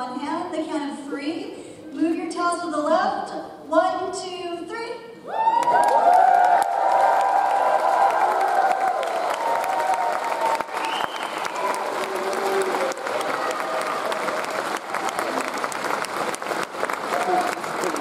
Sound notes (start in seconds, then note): 5.4 audience applauds; 5.4 audience cheers